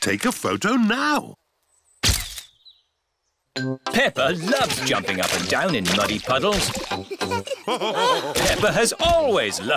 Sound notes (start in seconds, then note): 2.7 camera clicks; 7.7 all laughing